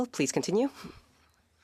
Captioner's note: speaking French